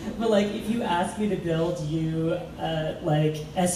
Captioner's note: laughs